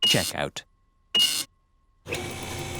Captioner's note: beeping